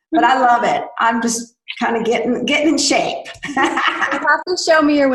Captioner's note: laughs